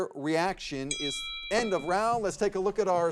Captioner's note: chiming